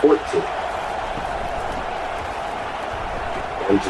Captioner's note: crowd Noises